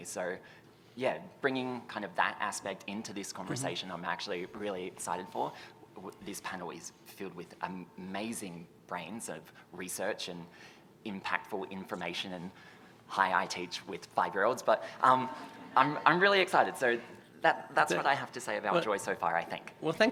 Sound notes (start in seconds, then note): 15.2 audience chuckles